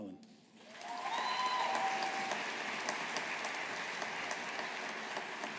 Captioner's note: audience applauding